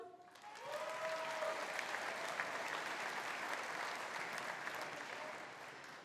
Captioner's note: audience applauding; audience cheering